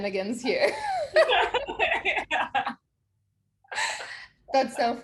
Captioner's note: both chuckles